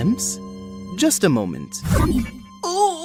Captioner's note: none